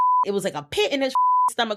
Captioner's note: beep